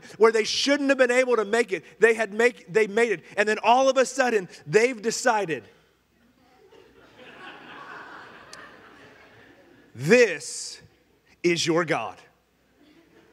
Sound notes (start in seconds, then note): 6.5 congregation laughing